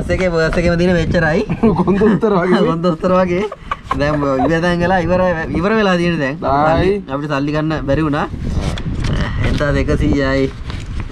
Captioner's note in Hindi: हस रहा